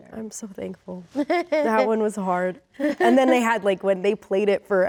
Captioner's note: laughs